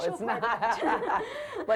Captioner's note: laughter